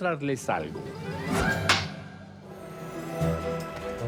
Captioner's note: clack